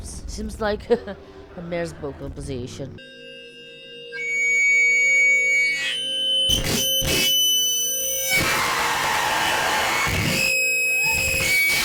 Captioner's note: laughs